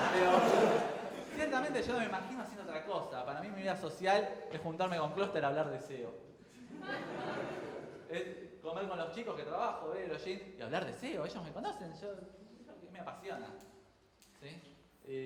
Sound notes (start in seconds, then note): 6.6 crowd chuckles